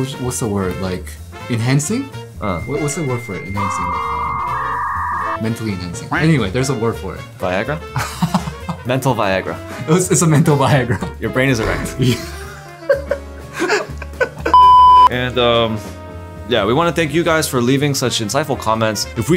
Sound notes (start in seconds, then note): 7.9 laughter; 11.9 laughter; 14.5 beep